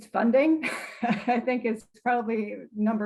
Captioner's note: chuckles